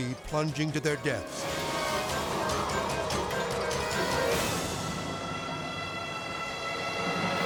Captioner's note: tense music; wind whooshing